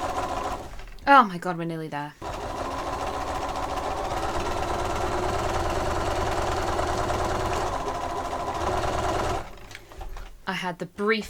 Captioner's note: sewing continues; sewing continues